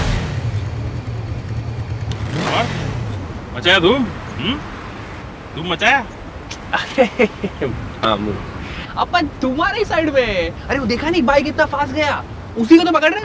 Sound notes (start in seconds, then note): 6.6 giggles